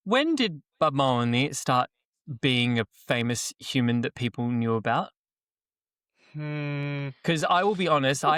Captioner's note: in a puerto rican accent